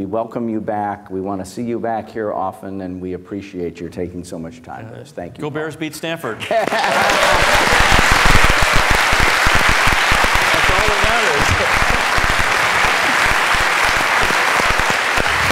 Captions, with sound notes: We welcome you back. We want to see you back here often, and we appreciate your taking so much time with us. Thank you, Paul. Go Bears. Beat Stanford. [LAUGHS] [CHEERING AND APPLAUSE] That's all that matters.